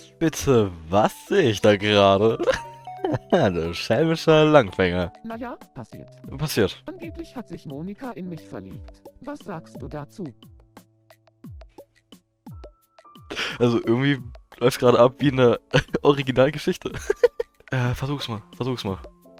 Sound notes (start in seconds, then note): 2.9 giggle; 16.9 giggle